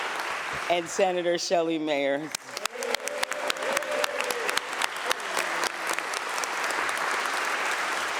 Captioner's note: applause